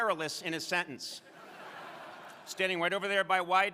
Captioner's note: crowd laughing